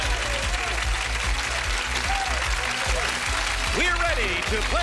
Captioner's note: applause